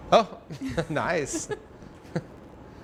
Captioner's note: laughter